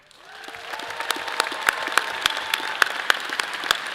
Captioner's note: all applauding